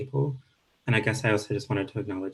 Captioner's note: speaking Indigenous language